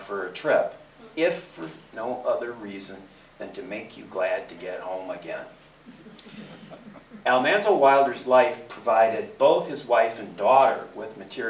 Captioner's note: laughter